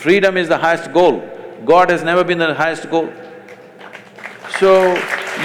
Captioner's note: applause